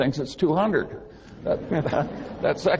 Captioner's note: laughing